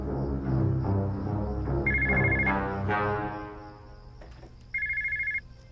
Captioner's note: phone ringing